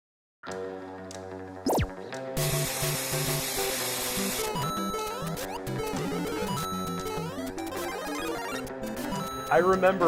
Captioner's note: video game sounds